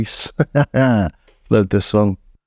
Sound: laughs

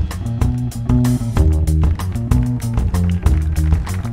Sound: audience clapping

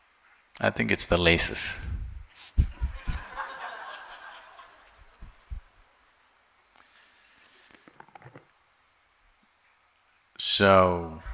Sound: laughter

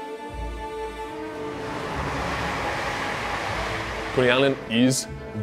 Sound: train running

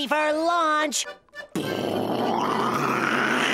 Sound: imitating rocket engines

